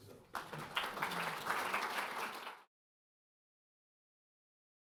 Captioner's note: audience applauding